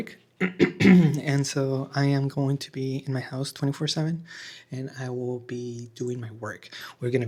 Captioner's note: clears throat